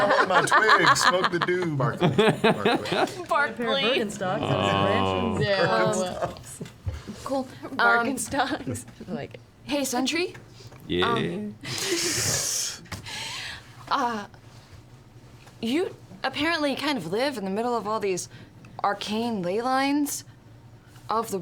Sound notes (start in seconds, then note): 0.0 laughter; 7.0 groans